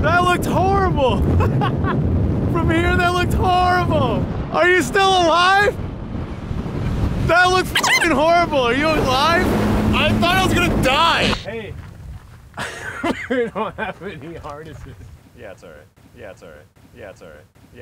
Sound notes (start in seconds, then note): 2.0 laughs; 7.8 beep